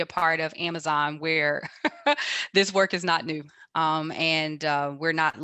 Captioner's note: laughs